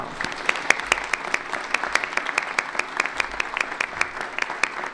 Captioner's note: applause